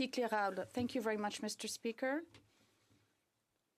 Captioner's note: speaking french